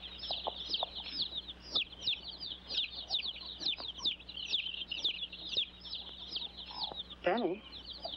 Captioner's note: chicks chirping; hooves trotting away; chicks chirping